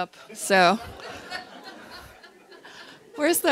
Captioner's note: audience laughter